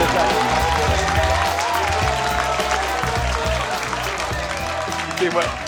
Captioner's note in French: aplaudissement